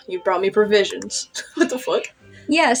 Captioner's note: chuckle